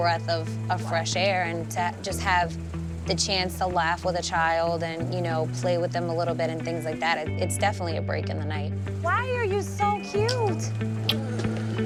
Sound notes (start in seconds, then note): 11.0 kissing sound